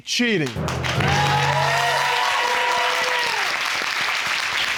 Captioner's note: audience clapping and cheering